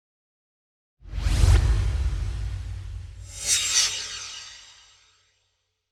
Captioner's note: swoosh